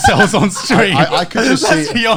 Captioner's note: Joey laughing